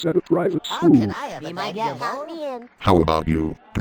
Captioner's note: Animaniacs exclaiming